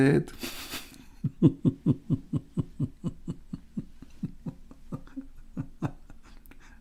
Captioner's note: Ketawa